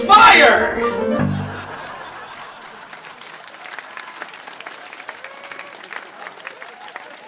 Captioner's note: canned studio audience applause